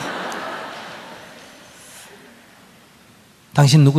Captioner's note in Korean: 청중 웃음